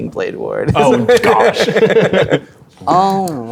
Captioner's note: players laughing